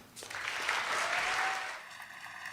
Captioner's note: cheers and applause